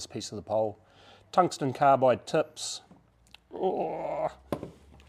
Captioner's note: grunts